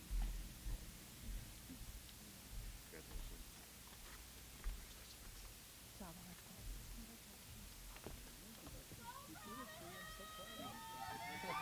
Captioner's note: applause